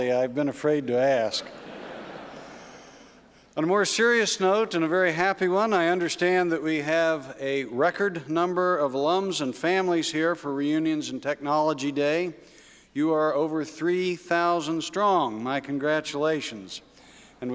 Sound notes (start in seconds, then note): 1.3 laughter